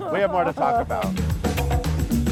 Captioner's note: laughing